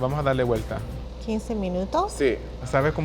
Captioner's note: speaking Spanish